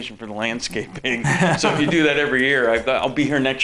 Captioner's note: laughing